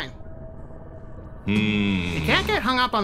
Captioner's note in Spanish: Beebs gruñe